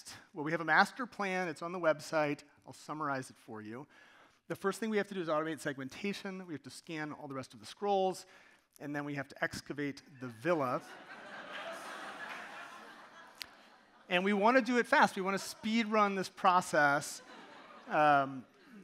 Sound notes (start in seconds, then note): 10.8 audience laughing